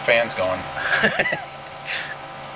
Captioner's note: laughs